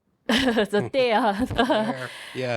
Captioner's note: laughing